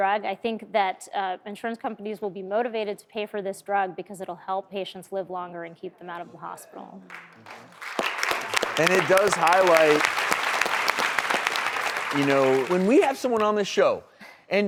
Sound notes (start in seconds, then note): 7.0 applause